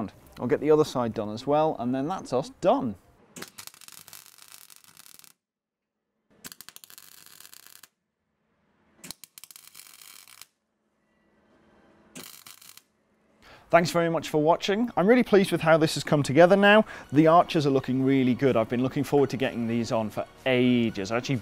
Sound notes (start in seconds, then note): 3.3 welding